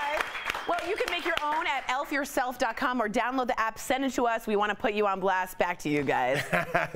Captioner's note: laughter